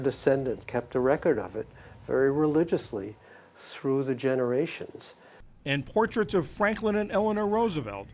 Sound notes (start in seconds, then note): 5.8 voice-over